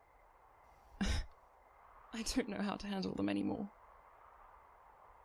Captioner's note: he scoffs